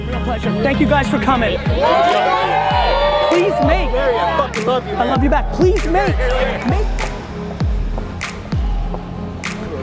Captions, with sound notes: Real pleasure, thank you guys for coming. (cheers) - Garry, I fuckin' love you, man. - I love you back. Please make. (soft music)